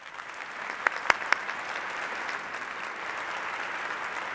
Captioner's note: applause